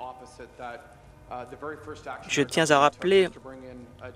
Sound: some Applause

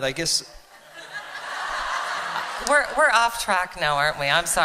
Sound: laughter

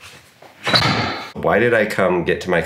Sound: door shuts

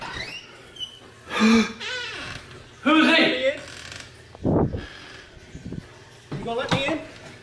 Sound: gasps

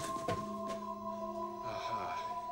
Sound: <i> grunts</i>

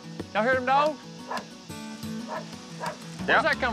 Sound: dog barking

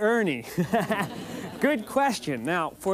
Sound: laughs

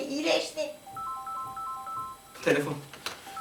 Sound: phone

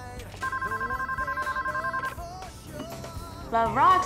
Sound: phone rings

